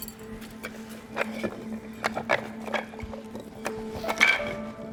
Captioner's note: blocks clanging